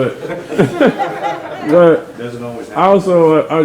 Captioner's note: members laughing